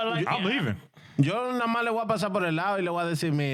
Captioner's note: speaking In Spanish